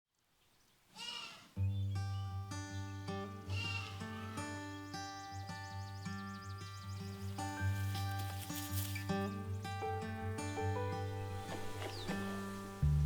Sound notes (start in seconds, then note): 0.2 birds chirping, goats bleating